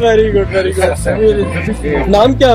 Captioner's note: Foreign language